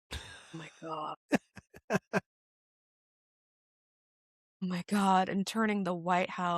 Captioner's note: laughing